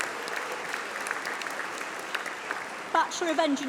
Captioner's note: applause